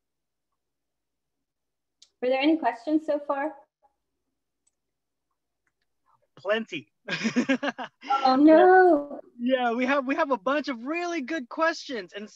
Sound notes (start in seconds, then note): 7.0 laughter